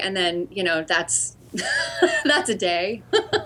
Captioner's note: laughter